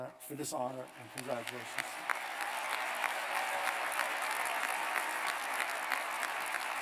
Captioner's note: cheers and applause